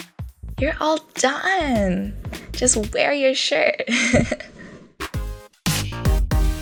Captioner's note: laugh